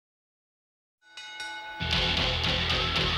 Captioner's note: bell rings; dramatic rock music